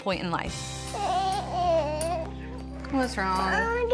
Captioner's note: whimpers